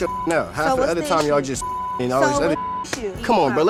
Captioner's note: beep